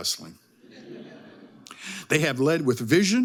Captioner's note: audience chuckling